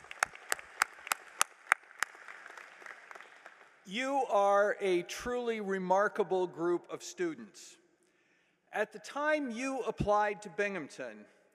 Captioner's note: applause